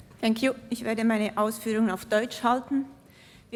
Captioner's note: non-english speech